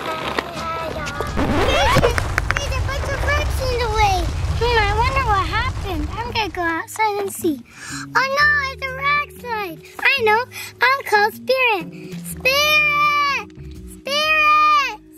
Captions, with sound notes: (record scratch) - There's a bunch of rocks in the way! Hmm, I wonder what happened? I'm going to go outside and see. Oh no it's a rock slide! I know, I'll call Spirit. Spirit! Spirit!